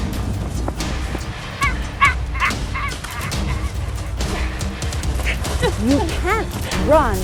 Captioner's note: supernatural sounds